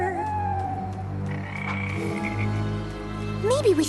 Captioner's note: frogs croaking; bird call